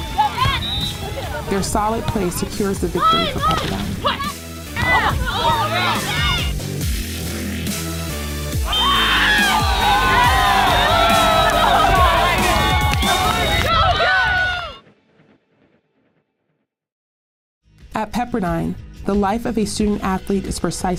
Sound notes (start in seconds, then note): 0.2 music grows louder; 0.5 whistle blows; 6.3 energetic music; 8.6 whistle blows; 8.6 cheering; 16.9 energetic music